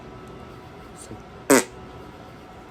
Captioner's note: blows a raspberry